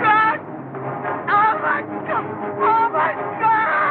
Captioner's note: screaming